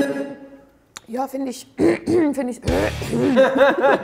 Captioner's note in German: Sie räuspert sich